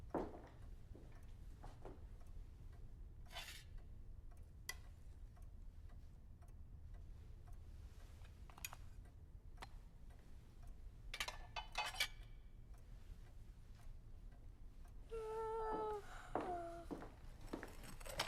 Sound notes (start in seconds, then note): 6.2 clock ticking; 15.1 yawning